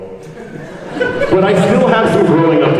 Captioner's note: panelists laugh